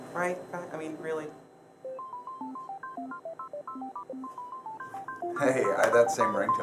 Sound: cell phone rings

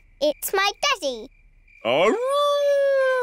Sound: howling

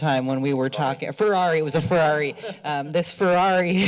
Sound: laughter

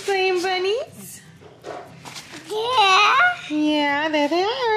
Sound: babbling

